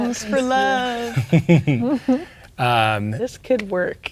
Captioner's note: chuckling